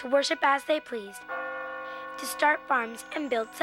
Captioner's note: bell ringing